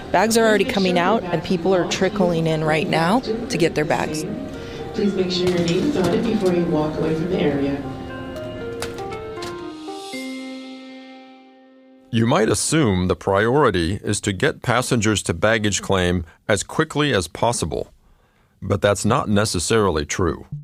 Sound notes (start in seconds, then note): 4.9 airport announcement